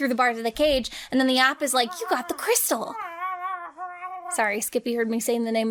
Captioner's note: Skippy whining